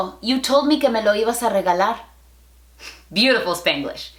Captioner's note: Spanglish